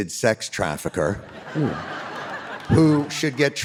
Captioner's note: audience laughing